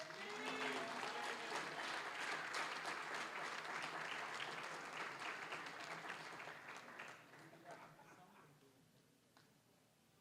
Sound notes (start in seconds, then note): 0.0 applause, cheering; 3.6 applause